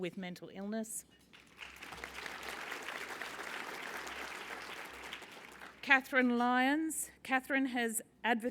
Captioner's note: applause